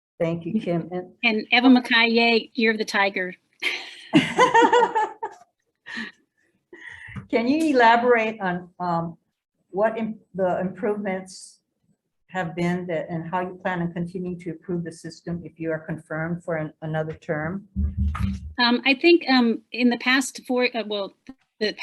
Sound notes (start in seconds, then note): 3.6 laughs; 3.7 chuckles